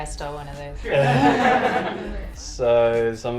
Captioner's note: laughter